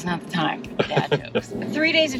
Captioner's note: laughs